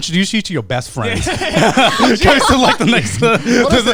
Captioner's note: everyone laughing